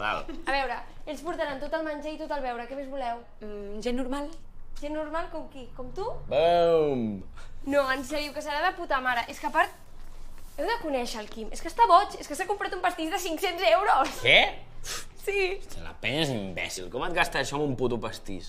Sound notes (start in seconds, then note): 14.0 sighs